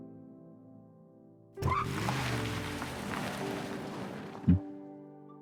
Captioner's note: brake sounds